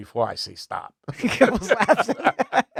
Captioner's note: laughing